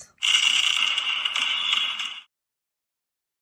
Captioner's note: fireworks bang